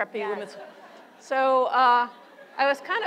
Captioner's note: laughter